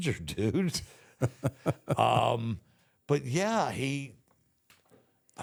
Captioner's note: The Undertaker laughs